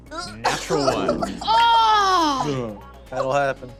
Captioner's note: groans